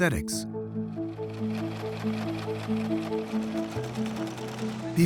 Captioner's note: sewing machine whirring